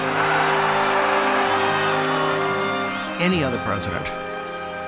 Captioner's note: cheering